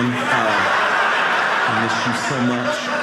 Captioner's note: audience laughing